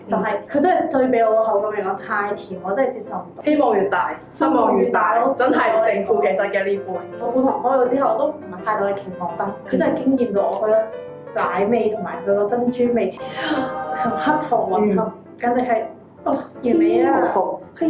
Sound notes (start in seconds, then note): 13.2 gasp